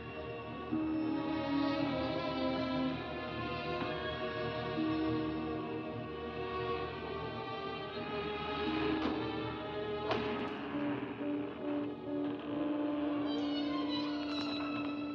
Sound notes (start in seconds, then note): 10.0 door opens; 11.5 eerie music; 14.9 door closes